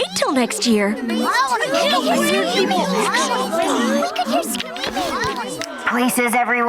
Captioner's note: chattering